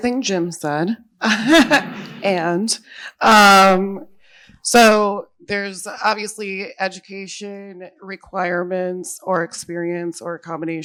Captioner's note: laughs